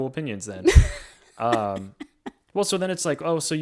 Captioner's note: laughs